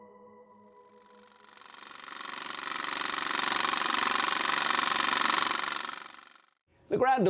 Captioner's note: film reel clicking